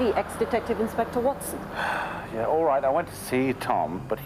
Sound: sighs

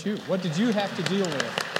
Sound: applause

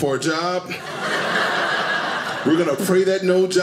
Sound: audience laughing

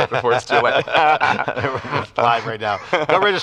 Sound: both laugh

